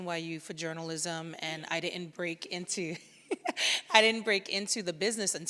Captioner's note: laughs